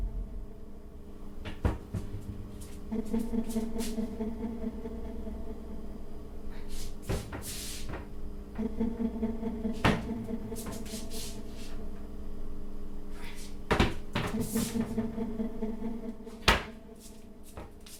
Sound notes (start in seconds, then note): 1.6 door thuds; 1.6 eerie dramatic music; 11.6 door thuds; 11.6 eerie gentle music continues